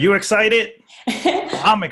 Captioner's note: laughing